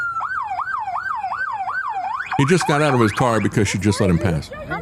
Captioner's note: sirens Blaring